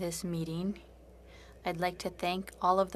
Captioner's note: speaking French